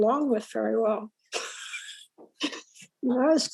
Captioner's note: laughs